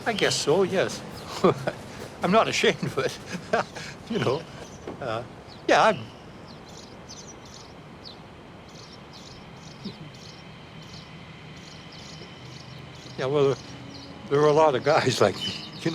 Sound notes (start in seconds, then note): 1.1 laughs; 4.7 birds chirp